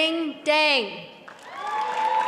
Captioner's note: applause